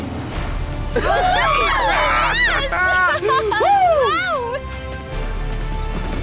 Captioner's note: Red Team cheers